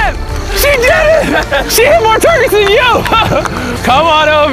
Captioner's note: laughs